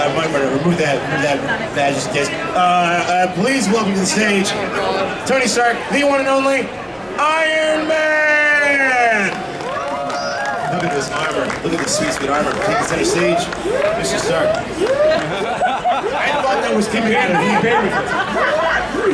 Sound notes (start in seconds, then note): 8.4 audience cheering; 15.4 audience laughing